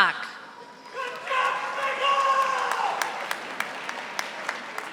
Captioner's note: audience applauding